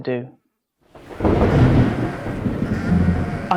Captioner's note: thunder clap